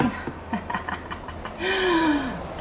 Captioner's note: laughing